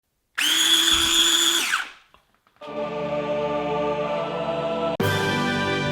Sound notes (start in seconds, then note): 0.4 machine buzzing; 2.9 dramatic music